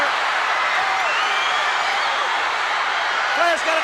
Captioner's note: crowd screams